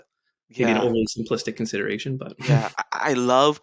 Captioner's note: chuckles